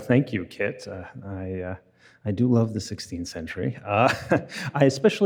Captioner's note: laughs